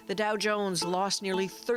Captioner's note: bell ringing